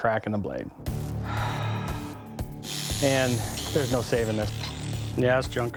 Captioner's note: sigh